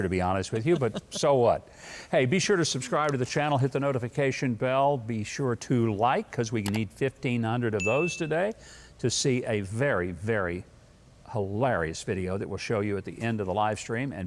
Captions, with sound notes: to be honest with you but so what. Hey, be sure to subscribe to the channel, hit the notification bell. Be sure to like. (mouse clicks) Cause we need 1500 of those today (bell rings) to see a very, very hilarious video that will show you at the end of the live stream